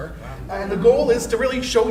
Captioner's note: crowd